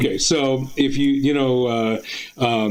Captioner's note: none